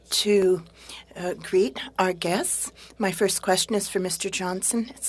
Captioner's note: speaking French